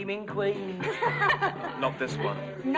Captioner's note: all laughing